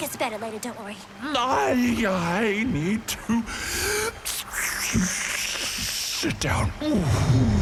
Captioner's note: inhale